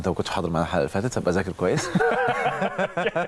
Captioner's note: laugh!